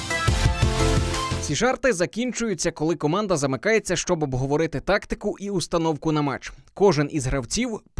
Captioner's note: voiceover